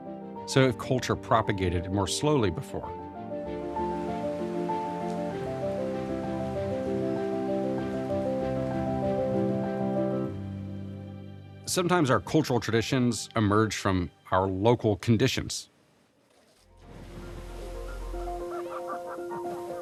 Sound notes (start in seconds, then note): 16.7 geyser splashing